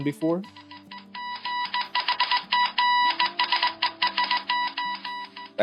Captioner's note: telegraph Morse Code Sounds